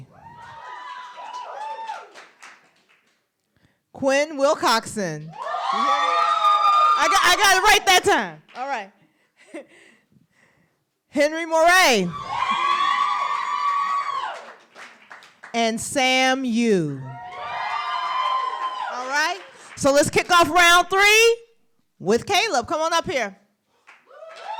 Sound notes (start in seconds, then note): 0.1 applause; 12.1 applause; 17.2 applause